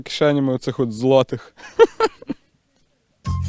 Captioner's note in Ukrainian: сміється